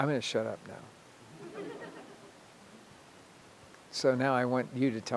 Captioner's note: audience laughing